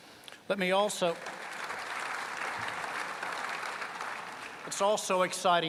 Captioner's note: applause